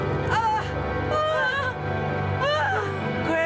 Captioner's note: screams; groans